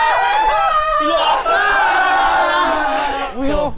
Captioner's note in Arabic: بكاء